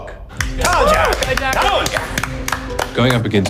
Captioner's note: applauding and cheering